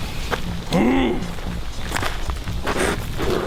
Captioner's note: Og grunting; gravel crunching